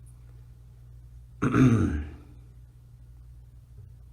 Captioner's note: clears throat